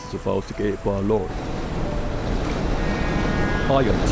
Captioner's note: lorry sounds getting louder; horn blaring